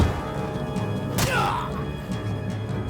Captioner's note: yelps